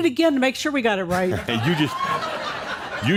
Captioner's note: laughter